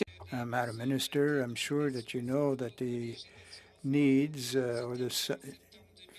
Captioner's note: speaking French